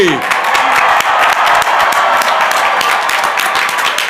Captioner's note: crowd applauding